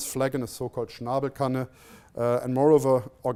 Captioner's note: non-english speech